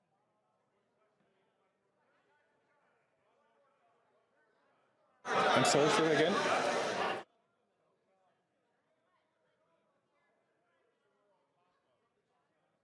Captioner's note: some Applause